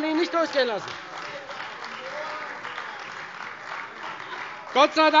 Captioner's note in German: Beifall Freie Demokraten - Lebhafte Zurufe DIE LINKE